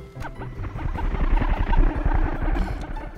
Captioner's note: mind-blower noises